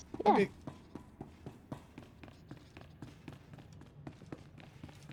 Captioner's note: footsteps